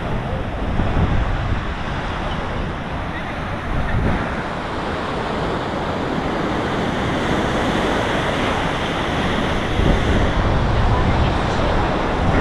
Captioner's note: waves crashing